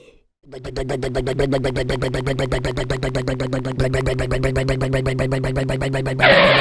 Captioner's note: rumbling motor; skid